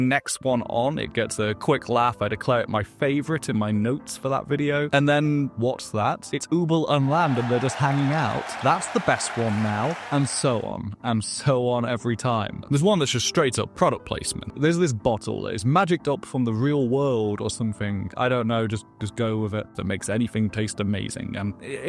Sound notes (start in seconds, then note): 6.9 Crowd cheering at little Übel and Lil’ Land